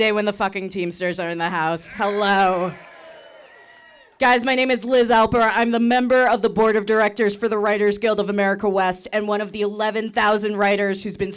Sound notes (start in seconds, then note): 1.8 audience cheering